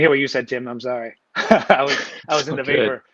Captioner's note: laughing